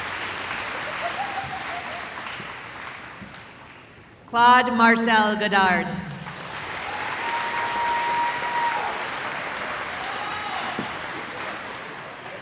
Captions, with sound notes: [applause] Claude Marcelle Godard [cheering]